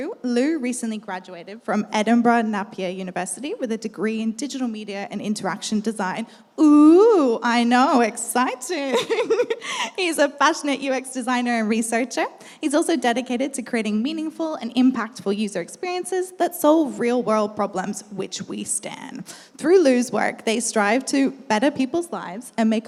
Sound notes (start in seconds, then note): 8.8 laughs